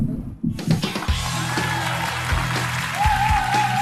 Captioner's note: clap hands